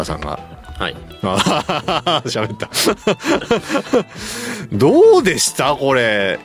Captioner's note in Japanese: 笑い